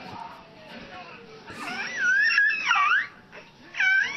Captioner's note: squealing